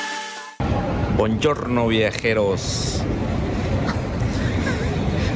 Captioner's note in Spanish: risas